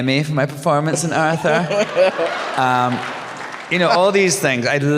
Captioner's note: laughter, cheers